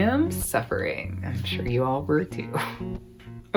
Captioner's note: chuckles